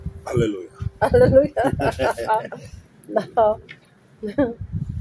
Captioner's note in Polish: śmiech